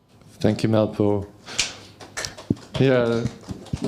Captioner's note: applause